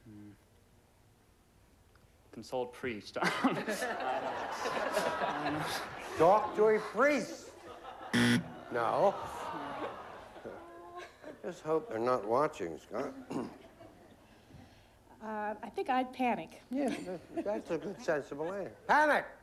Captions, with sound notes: CONSULT A PRIEST. I DON'T KNOW. [LAUGHTER] TALK TO A PRIEST. [BUZZER] NO. LET'S HOPE THEY'RE NOT WATCHING, SCOTT. AHEM. UH, I THINK I'D PANIC. YEAH, THAT'S A SENSIBLE ANSWER. PANIC.